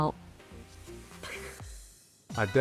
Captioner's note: laughs